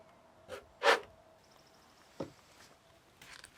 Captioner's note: wood scraping